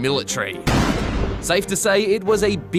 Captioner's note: gunshot